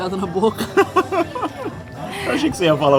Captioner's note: laughter